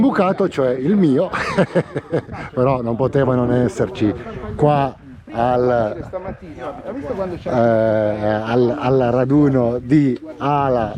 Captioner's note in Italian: risate